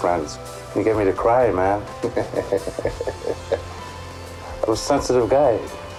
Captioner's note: chuckles